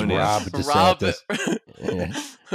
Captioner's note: laughs